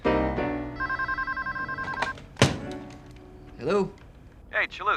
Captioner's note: telephone rings; on phone